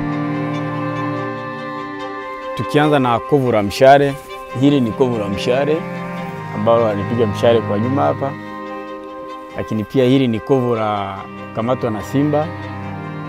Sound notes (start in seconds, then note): 7.4 non-english speech